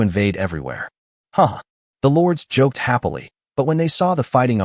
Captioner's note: haha